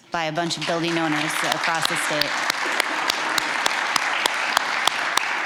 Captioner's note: applause